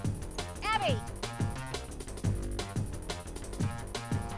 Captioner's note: shouting